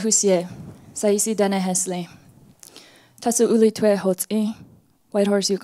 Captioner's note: speaks foreign language